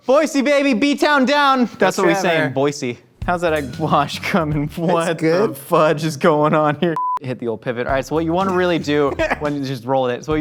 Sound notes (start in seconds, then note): 7.0 high pitched beep